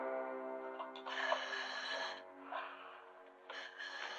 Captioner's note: mask hissing